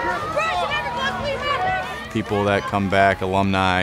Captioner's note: crowd yells